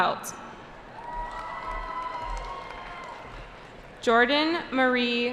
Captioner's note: cheering